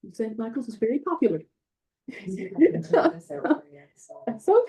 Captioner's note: background chatter